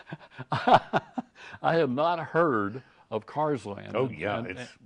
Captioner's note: laughing